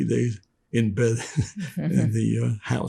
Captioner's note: laughing